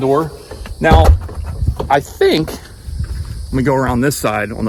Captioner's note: door thuds